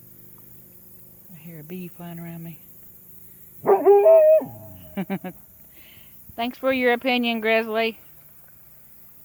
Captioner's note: Grizzly barks